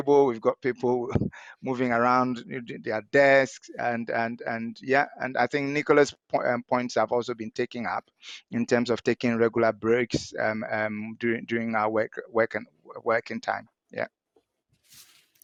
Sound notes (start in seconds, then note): none